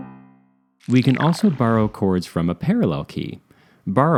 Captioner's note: sci-fi sound